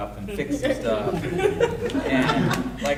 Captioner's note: audience laughing